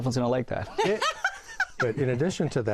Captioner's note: laughs